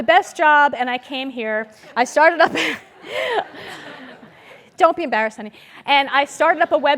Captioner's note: laugh